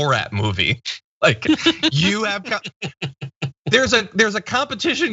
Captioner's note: laugh